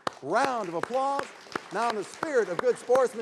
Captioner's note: everyone applauding